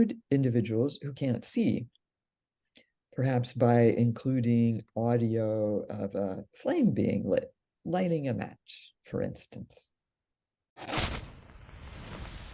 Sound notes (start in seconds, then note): 10.8 sound of striking a match